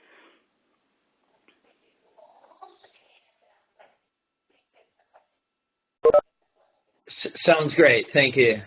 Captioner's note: pause